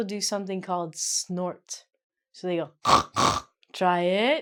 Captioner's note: snorts